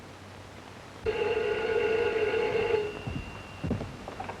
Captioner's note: phone ringing